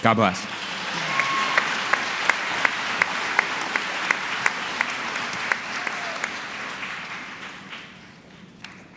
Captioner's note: applause